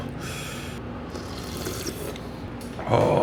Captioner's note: slurping